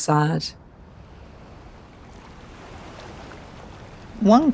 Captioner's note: water flowing